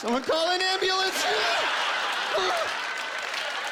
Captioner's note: groaning